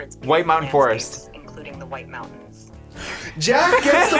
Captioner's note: phone Voice